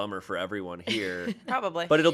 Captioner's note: laughs